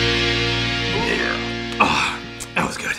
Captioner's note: burp